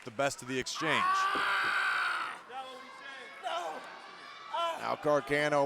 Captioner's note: Tozawa shouting